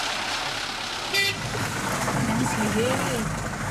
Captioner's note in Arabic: صوت بوق الشاحنة